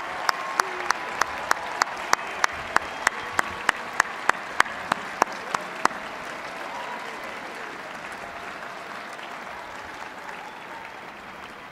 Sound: applause

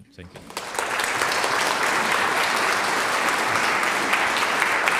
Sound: audience applauds

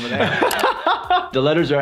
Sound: laughter

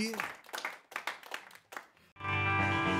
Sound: applause; band Warms Up with Background Chatter

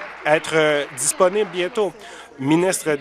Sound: applause

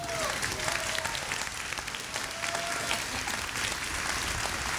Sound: audience applauding

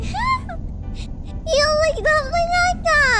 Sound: laughs

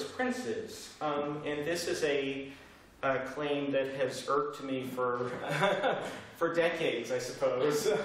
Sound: laughter

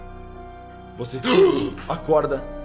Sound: gasping

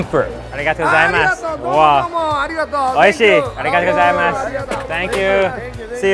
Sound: speaking in foreign language

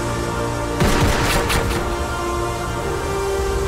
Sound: gun shoots; dramatic music

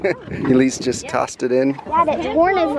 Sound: laughing

